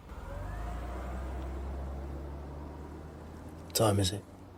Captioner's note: engine revving